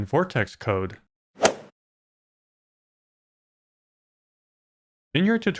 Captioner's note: golf ball hit sound